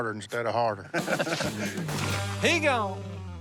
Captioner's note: laughs